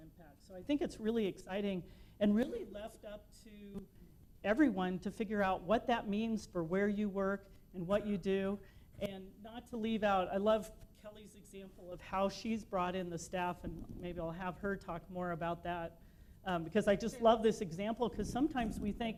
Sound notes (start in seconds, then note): none